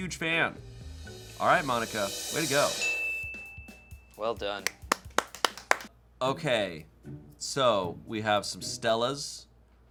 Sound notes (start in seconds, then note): 2.7 bell chimes; 4.7 crew applauds